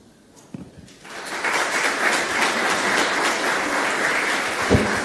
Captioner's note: audience applauds